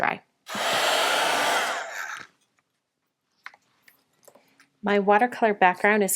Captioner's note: heat tool whirring